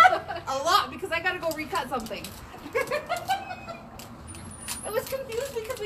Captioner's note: laughs